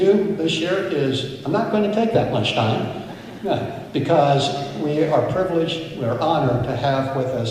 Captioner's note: chuckles